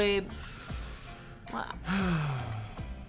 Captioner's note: sighs